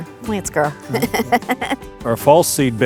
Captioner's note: laughs